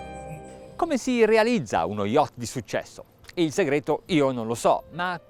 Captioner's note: man speaks in foreign language